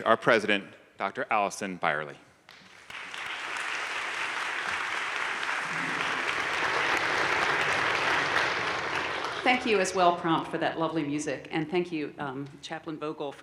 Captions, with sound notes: our President, Dr. Alison Byerly. (audience applauding) - Thank you, as well, Prompt, for that lovely music, and thank you, Chaplain Vogel,